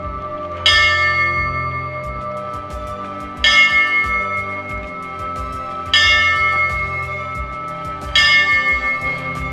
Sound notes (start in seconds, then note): 0.5 bell dings; 3.3 bell dings